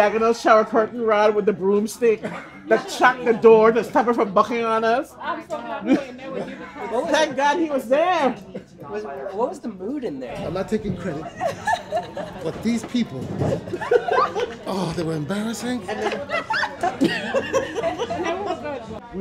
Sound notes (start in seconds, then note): 11.2 laughs; 16.2 people laughing